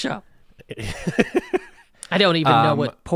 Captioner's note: laughs